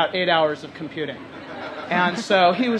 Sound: crowd laughs

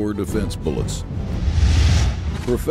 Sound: whoosh

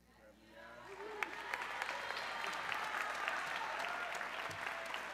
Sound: audience cheering

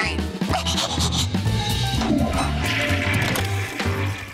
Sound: toilet flushing

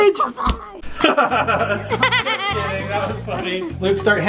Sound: laughing

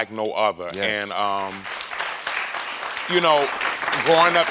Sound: audience applauds

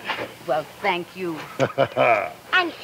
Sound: Anton laughs

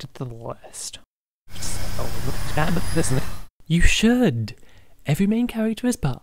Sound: rewind sound that’s starting to sound very relevant to the discussion

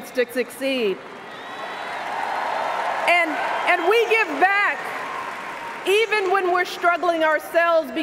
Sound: cheers, applause

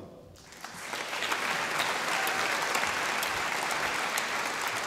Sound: audience applauding

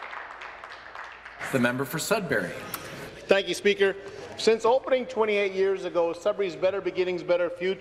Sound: some Applause

